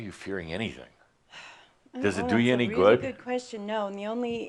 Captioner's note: sighing